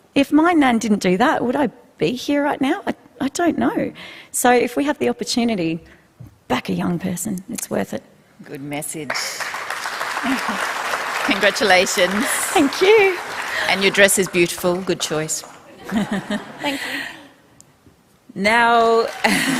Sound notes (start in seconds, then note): 12.4 applause